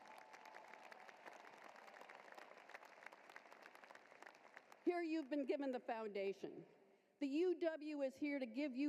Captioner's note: applause